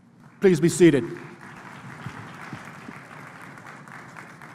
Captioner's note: applause